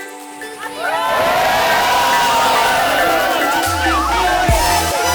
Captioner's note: cheers